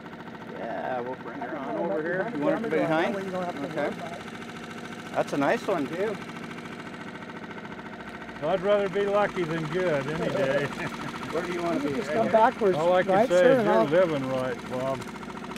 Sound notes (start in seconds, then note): 7.4 boat engine idling; 11.5 chuckling